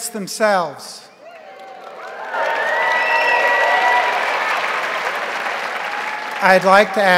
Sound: crowd cheering; crowd applauding

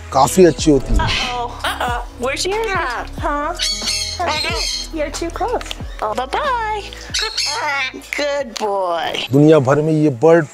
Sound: macaw mimicking

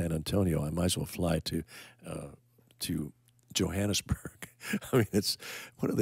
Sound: laughing

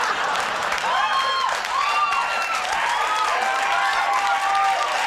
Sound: crowd laughs; crowd cheers

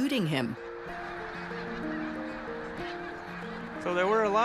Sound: squawking

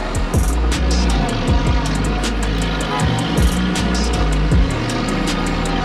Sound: vehicle groaning, beep

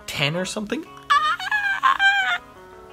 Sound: squeals

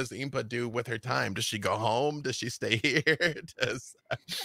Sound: laughs

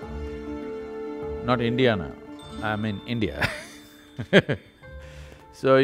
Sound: laughs

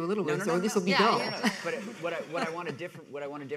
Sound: laughs

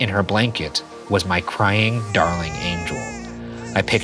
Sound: baby crying softly

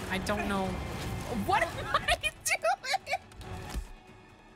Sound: laughing

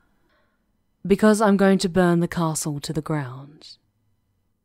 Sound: she sighs deeply, regretful

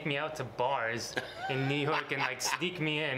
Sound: laughs

